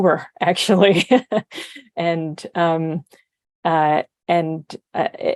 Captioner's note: chuckles